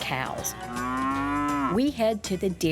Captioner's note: cows mooing